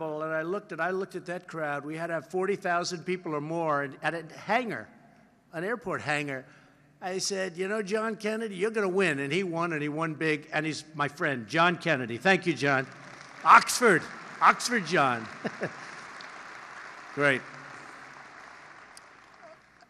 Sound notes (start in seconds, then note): 12.3 applause; 15.2 laughs